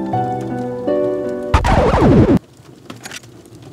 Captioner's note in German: Knistern eines Kaminfeuers; Zerkratzte Schallplatte